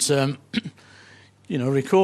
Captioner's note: clears throat